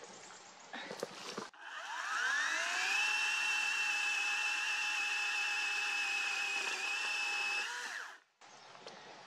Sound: chainsaw running

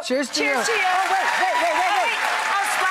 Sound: crowd applause

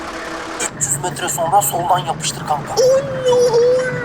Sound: Serdar Gps sound

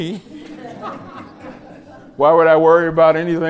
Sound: laughter

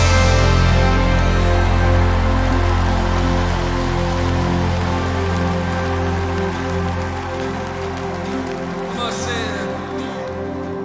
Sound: applause

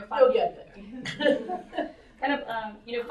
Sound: laughter

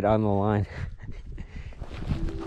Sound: chuckles; upbeat music

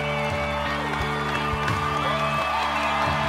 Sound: cheering and applause

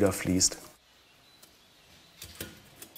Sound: birds chirping

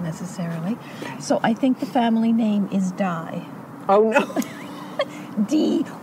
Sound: laughter

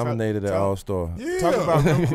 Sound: laughing

